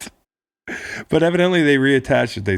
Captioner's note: laughing